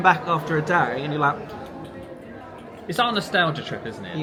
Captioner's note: smacks lips